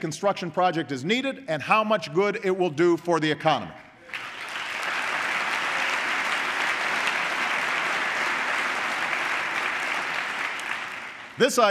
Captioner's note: applause